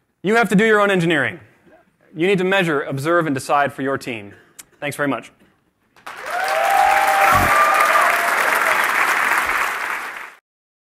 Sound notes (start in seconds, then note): 6.0 applause